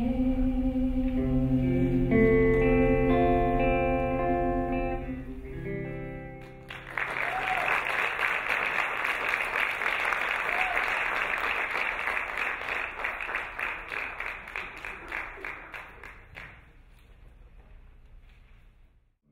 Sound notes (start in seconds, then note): 6.4 applauding; 6.8 cheering